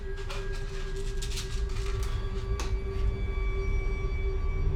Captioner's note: pills shaking